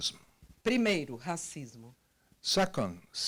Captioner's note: translator speaking Portuguese